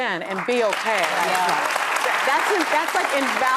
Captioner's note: audience applauds